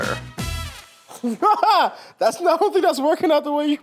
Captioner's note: laughs